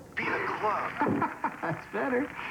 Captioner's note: applause on computer